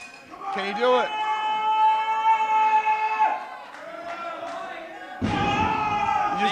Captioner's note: screams